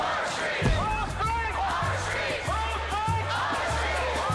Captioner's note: chanting in Spanish